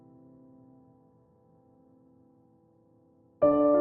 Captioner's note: none